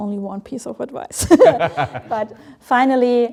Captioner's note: all laugh